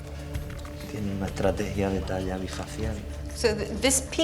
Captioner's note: speaking Spanish